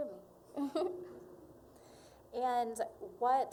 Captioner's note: laughing